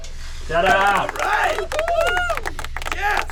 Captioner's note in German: falsches Publikum klatscht